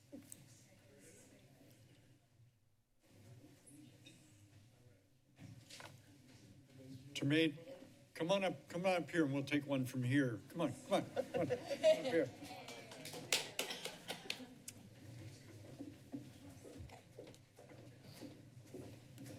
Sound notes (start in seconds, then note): 12.6 applauding; 15.8 silence